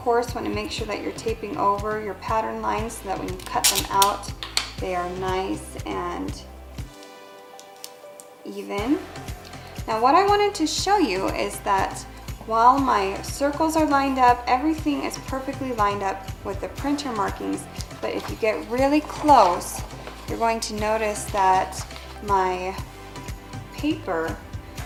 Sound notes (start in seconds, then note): 4.3 snapping and clattering; 19.2 rustling